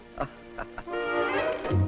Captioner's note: laughs